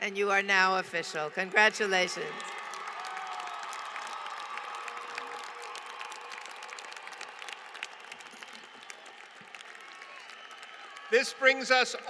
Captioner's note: applause